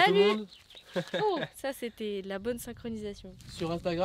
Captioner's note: laughs